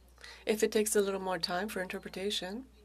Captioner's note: speaking French